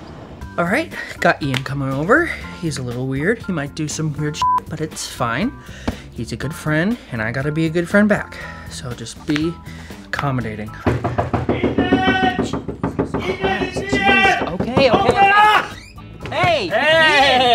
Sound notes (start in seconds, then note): 4.4 beep; 10.7 banging on door